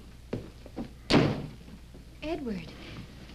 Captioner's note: door slams